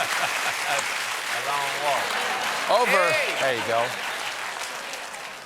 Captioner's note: laughter; applause